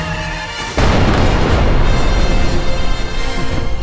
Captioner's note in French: bruits de moteurs et crissement de pneus; explosion